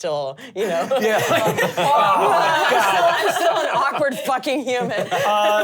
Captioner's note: all laughing and talking